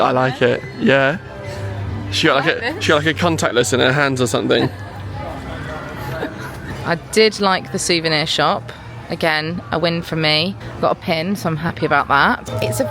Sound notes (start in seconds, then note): 3.8 laughing